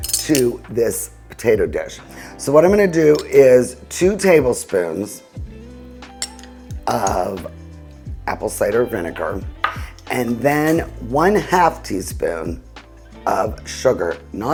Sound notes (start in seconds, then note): 0.1 utensils clinking; 5.3 slow music; 6.0 spoon clinking